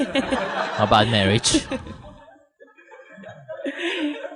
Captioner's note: audience Laughter; laughter